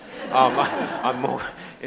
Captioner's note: audience laughs